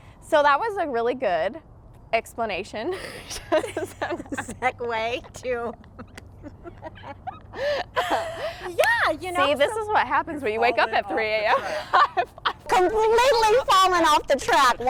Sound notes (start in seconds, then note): 3.0 laughs; 6.4 laughs loudly; 10.5 laughs